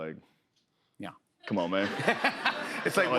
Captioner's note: laughter